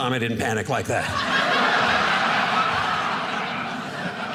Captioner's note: audience laughing